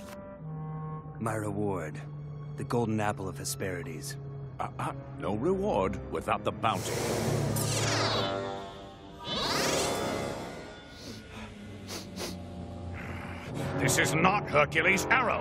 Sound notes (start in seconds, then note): 11.7 sniffing